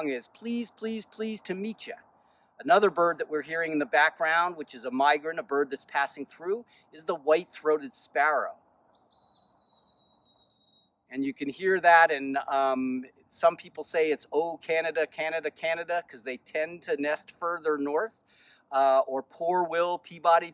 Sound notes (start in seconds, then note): 7.8 Sparrow singing